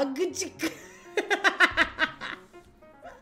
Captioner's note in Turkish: kahkaha